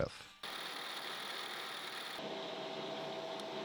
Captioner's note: drill whirring